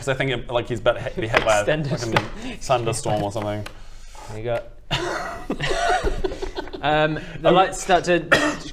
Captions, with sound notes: cos I think he'll, like he's about to be hit by a fucking thunderstorm or something here you go *laughs* the lights start to